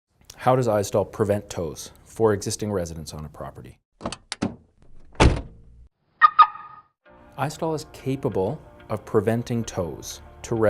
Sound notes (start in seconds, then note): 5.1 car door shutting; 6.2 alarm beeping